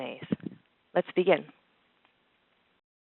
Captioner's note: pause